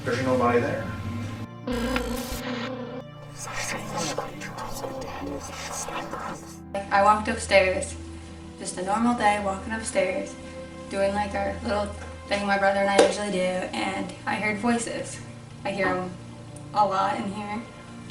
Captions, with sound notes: There was nobody there. (eerie music) (cacophony of eerie voices) - I walked upstairs, just a normal day, I'm walking upstairs, doing my little thing my brother and I usually do. And I heard voices. I hear 'em a lot in here.